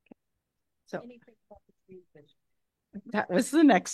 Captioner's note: board member speaking softly